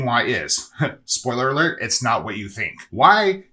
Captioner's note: chuckles